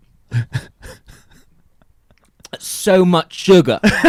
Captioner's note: laughing